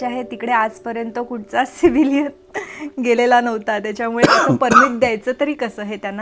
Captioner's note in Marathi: खोकला